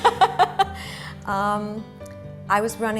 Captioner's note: laughter